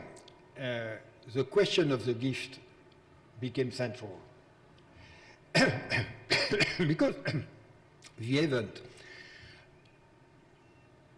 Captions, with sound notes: It's why the question of the gift became central, (coughs) because the event outreach philosophy